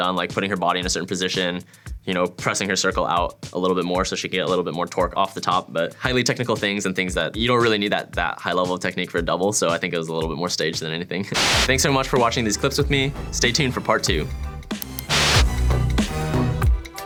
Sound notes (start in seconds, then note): 11.3 white noise; 15.0 white noise; 15.8 cool music